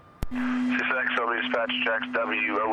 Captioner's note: radio playing